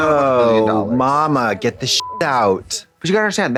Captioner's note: beep